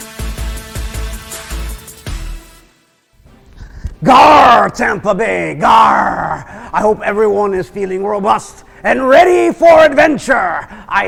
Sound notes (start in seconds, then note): 5.6 grunts